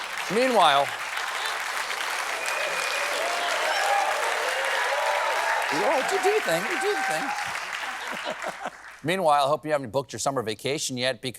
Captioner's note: applause